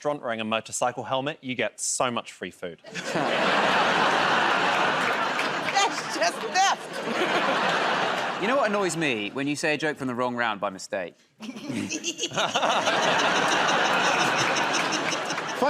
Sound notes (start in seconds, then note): 2.9 laughter and applause; 6.7 laughter; 11.8 laughter and applause